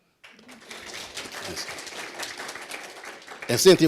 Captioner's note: applause